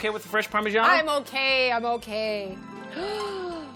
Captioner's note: gasps; harp flourish